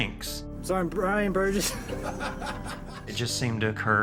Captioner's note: laughter